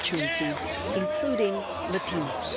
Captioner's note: cheers